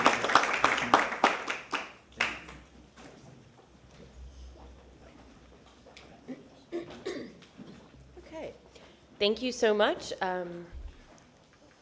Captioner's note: applause